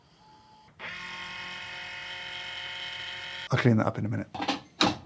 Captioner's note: coffee grinder whirring